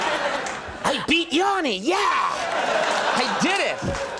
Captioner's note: audience laughing; laughing; laughing progressing